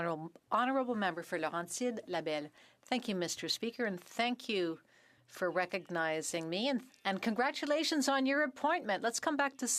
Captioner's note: speaking French